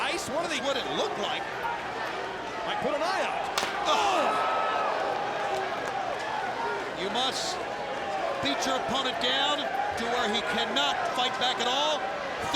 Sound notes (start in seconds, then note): 3.6 chair smacks